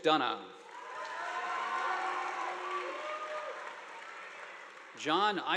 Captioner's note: audience applauding